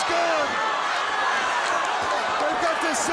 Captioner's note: crowd cheering